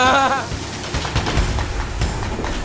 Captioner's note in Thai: เสียงหัวเราะ